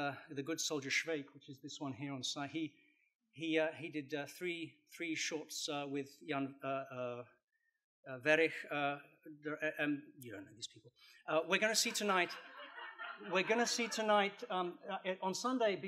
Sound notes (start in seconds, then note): 11.8 laughter